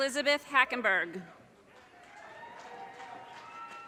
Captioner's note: audience cheers and applause